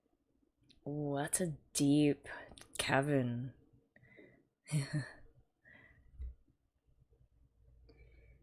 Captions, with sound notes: Oo that's a deep cavern. [chuckles]